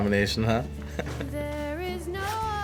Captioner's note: Dillon laughs